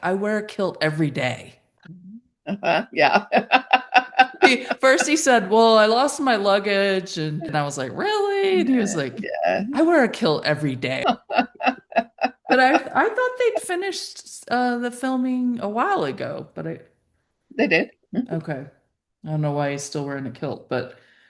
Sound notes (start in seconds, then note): 2.4 laughing; 11.0 chuckling